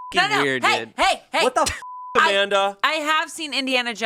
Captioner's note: beep